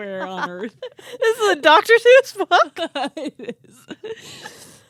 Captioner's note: both laughing